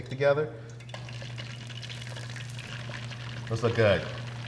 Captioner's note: oil bubbles